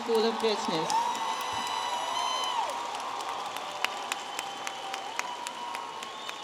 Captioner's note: audience applauding and cheering